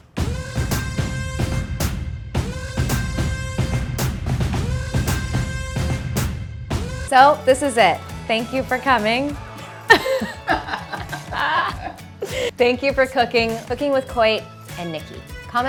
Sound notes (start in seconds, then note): 0.2 upbeat music; 9.6 laughing